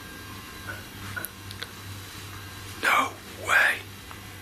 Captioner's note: metallic tapping